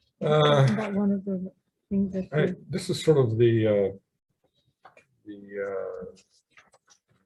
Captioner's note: sighs loudly